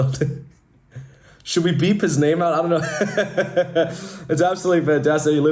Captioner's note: laughing